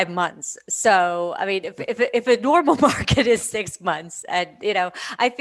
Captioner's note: laughs